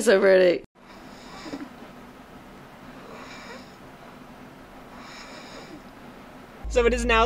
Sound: faint sound of snoring

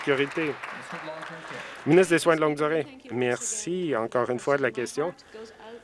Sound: some Applause

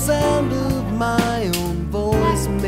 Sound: click

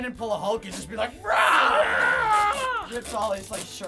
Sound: roars

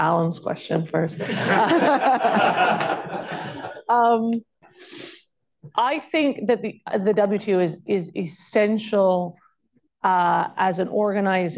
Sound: laughter

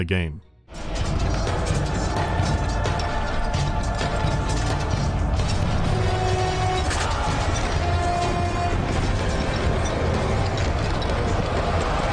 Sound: sounds of battle in the background

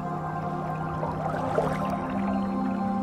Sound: water bubbles

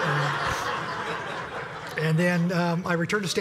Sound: laugh

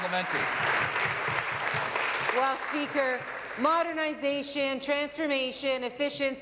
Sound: applause

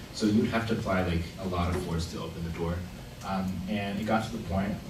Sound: none

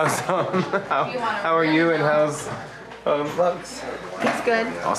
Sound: laughs

